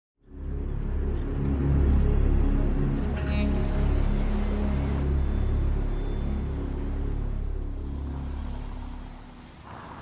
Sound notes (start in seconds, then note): 0.2 gentle music; 0.6 birds chirping